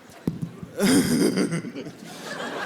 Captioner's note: giggles